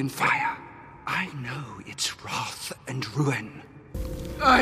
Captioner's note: menacing whisper